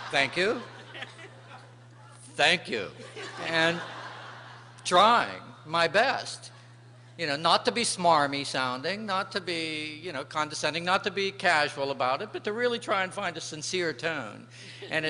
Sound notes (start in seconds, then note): 3.0 laughter